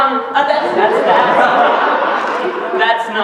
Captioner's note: laughter